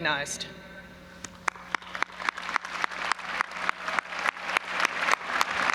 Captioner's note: audience applauding